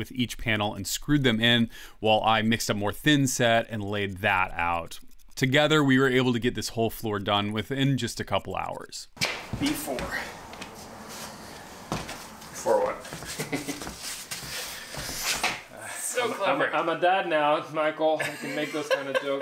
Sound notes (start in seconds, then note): 12.5 using impact driver to screw cement board into subfloor